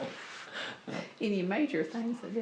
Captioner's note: laughs